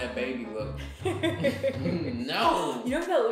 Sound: laughter

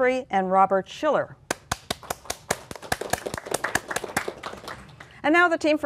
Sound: applause

